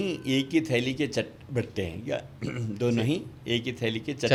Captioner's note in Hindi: गला साफ़ करने की आवाज़